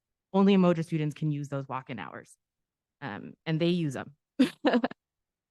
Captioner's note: giggle